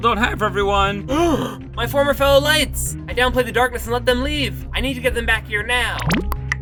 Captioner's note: gasps